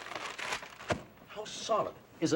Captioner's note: paper slams on bed